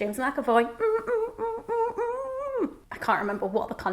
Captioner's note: humming a song